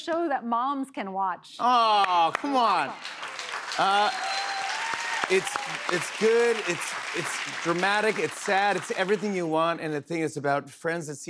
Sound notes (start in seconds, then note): 2.9 cheers and applause